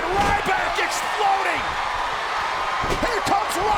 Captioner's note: applause